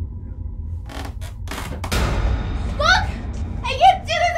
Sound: floorboards creaking

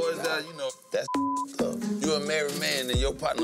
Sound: beep

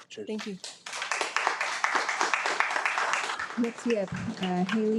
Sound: attendees applaud

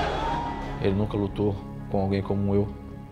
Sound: speaking Portuguese

